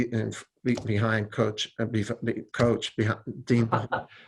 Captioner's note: stammering